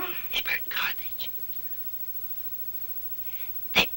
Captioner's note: whispering